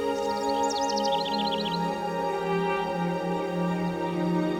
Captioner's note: birds chirping